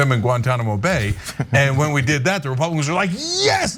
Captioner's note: laugh